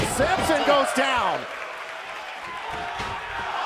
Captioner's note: crowd cheering